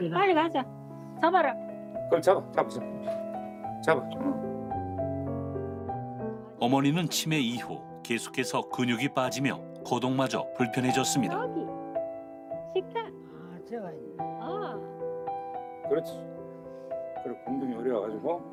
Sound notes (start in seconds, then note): 7.8 voiceover